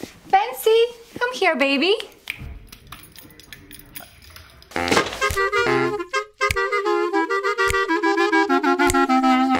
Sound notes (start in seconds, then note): 2.7 dog runs; 4.8 book thuds